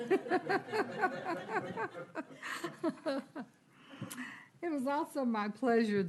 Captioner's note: laughter